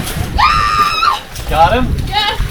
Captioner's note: scream in excitement